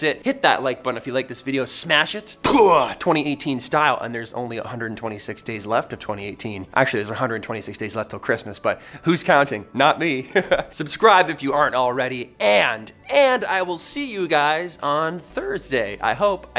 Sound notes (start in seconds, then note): 10.3 laughs